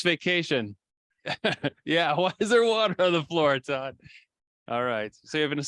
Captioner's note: laughs